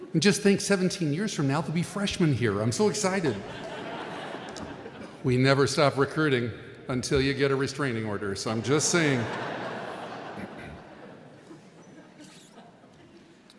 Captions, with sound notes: And just think, 17 years from now, they'll be freshman here! I'm so excited! (audience laughing) We never stop recruiting, until you get a restraining order. So I'm just saying... (audience laughing)